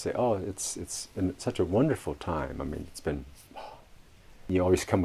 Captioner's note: exhales